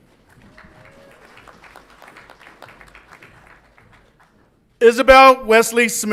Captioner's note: audience applauds and cheers